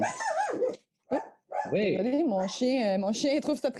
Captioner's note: dog barking